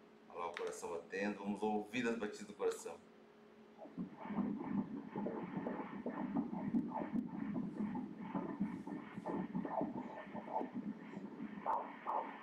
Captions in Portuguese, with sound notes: olha lá o coração batendo, vamos ouvir as batidas do coração [BATIMENTOS CARDÍACOS]